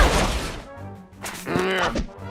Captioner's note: growls